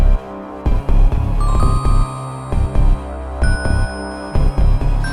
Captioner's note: chimes